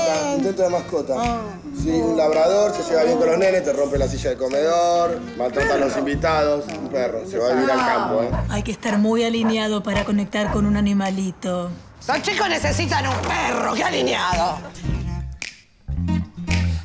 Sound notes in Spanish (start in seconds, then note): 7.5 Ladridos; 15.9 Música de cierre